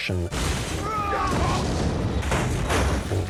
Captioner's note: men yelling